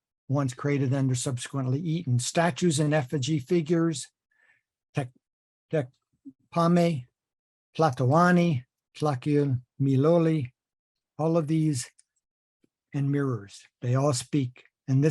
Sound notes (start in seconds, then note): 7.6 speaking nahuatl